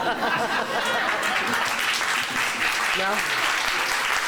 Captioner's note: applause